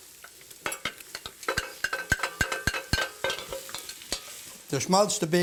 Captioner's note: stirring ingredients